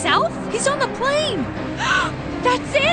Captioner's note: gasp